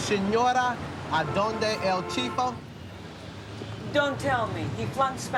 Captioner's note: speaking foreign language